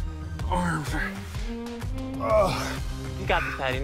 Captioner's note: grunts